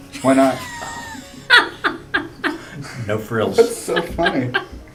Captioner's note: laugh